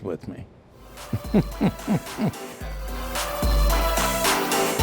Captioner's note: laughs; exciting music